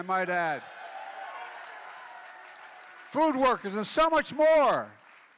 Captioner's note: applause